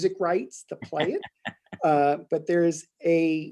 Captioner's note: laughing